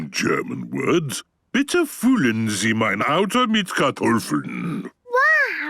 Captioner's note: speaking German